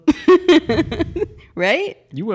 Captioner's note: laughs